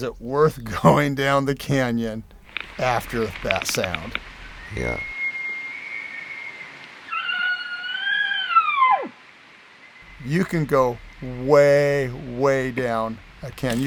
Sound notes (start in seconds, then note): 5.9 bull Elk Bugle; 7.0 hunter Bull Call